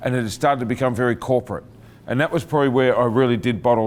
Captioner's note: none